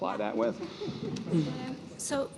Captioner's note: chuckling